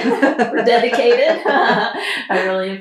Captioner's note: laughter